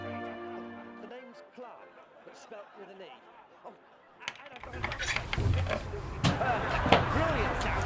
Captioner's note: comedy tv show playing in the distance